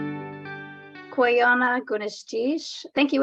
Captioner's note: non-english speech